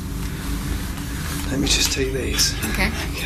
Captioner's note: none